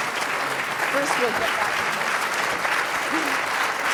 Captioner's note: drowned out by applause; voiceover; applause